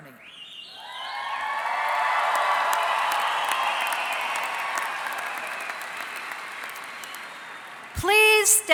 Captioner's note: cheering and Applause